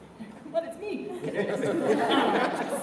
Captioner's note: laughter